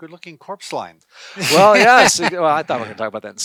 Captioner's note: chuckles